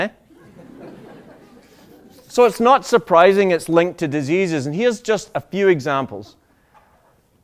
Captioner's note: laughter